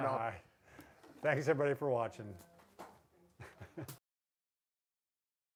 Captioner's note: laughs